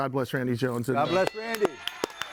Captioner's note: bell ringing; audience cheering and applauding